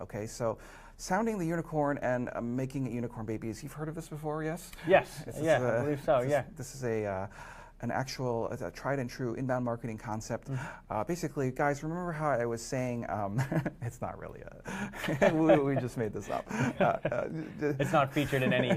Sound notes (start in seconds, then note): 13.2 laughs